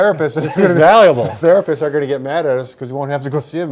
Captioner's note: laughter